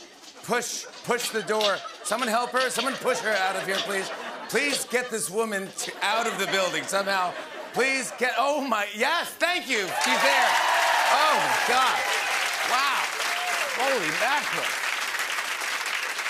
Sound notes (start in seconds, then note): 9.8 cheering and applause